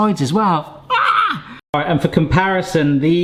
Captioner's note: screaming